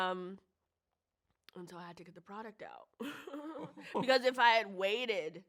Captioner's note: chuckles